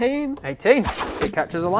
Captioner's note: fwoosh